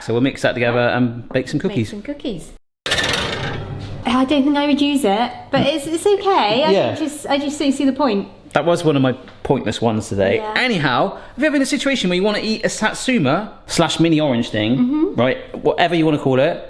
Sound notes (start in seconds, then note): 2.8 tray clatters